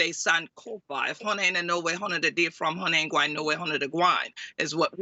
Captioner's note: speaking in foreign language